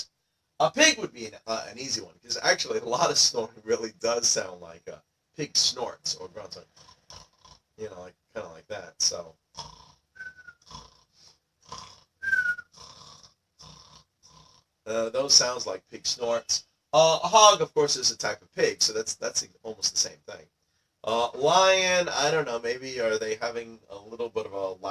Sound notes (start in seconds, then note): 6.6 snoring and snorting sounds